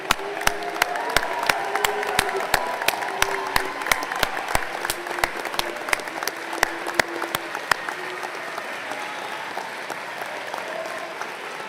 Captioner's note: applause